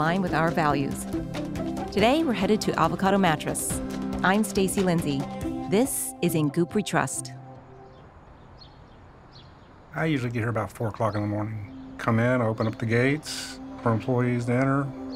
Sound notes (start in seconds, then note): 8.0 birds chirping